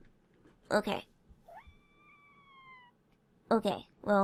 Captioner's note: displeased meows